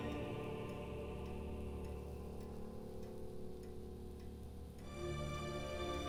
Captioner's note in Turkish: Saat efekt sesi